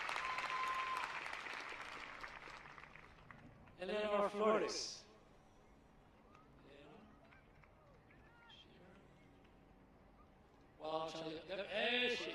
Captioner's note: applause